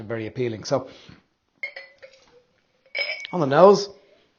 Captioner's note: glass tinging